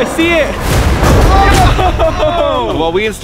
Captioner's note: group shouting